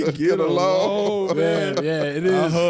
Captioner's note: all laughing